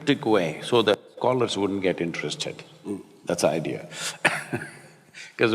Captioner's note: laughs